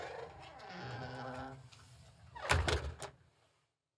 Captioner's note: closing door